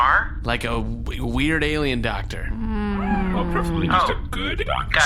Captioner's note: groans